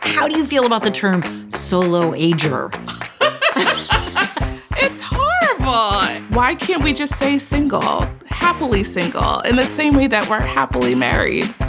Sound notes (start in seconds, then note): 2.8 laughs